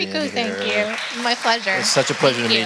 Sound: audience applaud

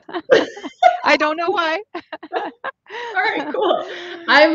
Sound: both laughing

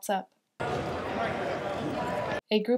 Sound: sound of crowd

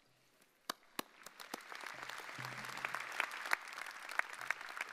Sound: audience applauding

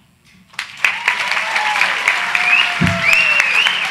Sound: audience applause

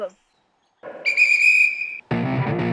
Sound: whistle shrills; upbeat rock music

